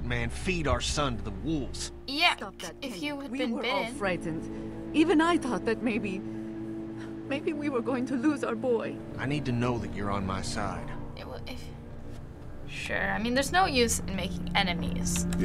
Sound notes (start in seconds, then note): 11.2 stammers